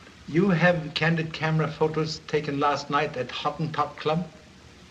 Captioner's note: none